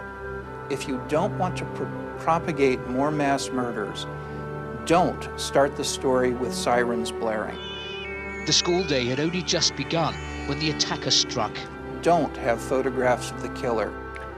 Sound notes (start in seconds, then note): 7.4 sirens blaring